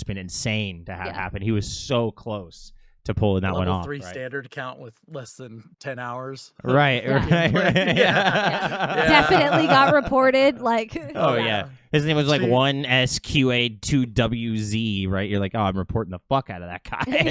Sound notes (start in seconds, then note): 8.4 laughing